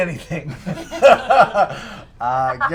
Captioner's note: laughter